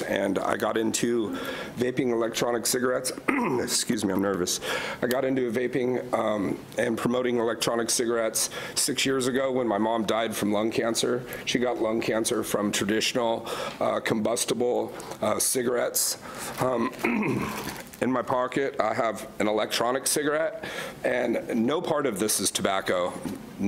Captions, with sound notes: and I got into vaping electronic cigarettes, (coughs) excuse me I'm nervous. I got into vaping and promoting electronic cigarettes six years ago when my mom died from lung cancer. She got lung cancer from traditional combustible cigarettes. In my pocket I have an electronic cigarette and no part of this is tobacco,